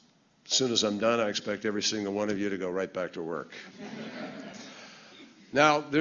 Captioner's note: laughter